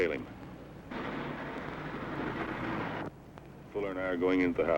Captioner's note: car engine revving